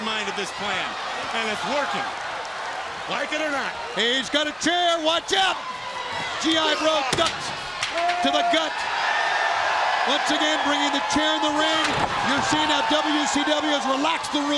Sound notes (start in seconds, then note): 8.2 crowd cheering